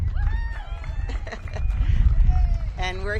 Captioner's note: audience cheers